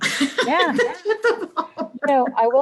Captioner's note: laughs